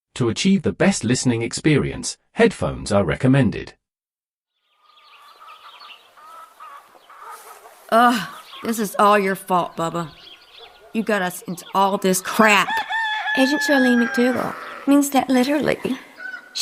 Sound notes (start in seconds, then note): 4.4 farm animals